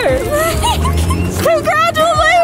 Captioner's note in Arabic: ضحك